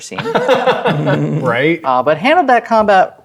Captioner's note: laughing